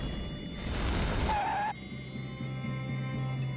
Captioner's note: skidding